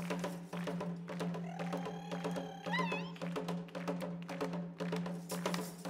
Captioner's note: shouting and drum beating; drum beating and metal clinking